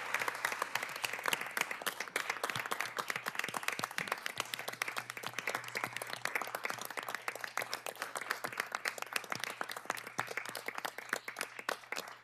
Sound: applause

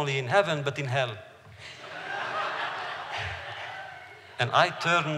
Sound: laughter

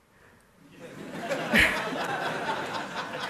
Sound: laughter

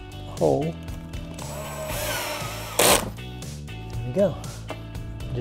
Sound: drilling sound

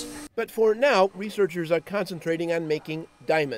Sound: voiceover

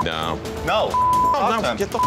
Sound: beep

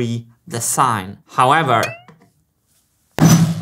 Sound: poing; whack

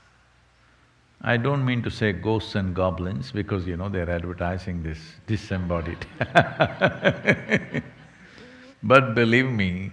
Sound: laughs

